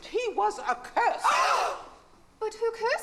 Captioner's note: bridesmaids gasp